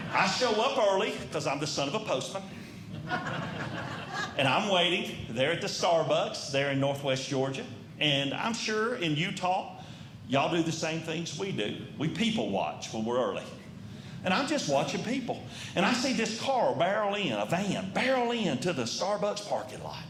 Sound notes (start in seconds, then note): 2.8 audience Laughing